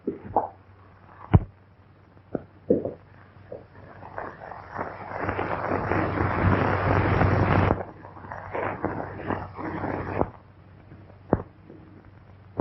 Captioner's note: pounding